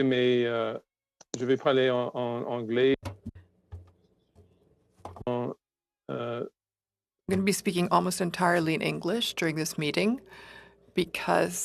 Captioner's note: speaking French